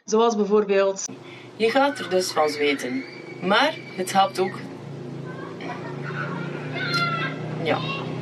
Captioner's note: children play noisily in the background